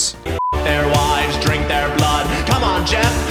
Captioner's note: beep